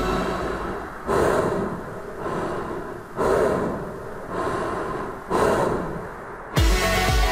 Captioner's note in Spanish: Inhalaciones, exhalaciones; Música movida